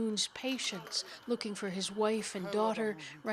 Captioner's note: speaking Foreign Language